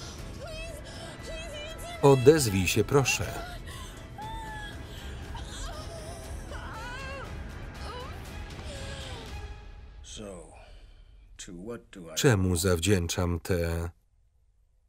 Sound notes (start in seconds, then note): 4.2 wailing